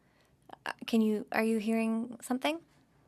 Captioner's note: speaking in French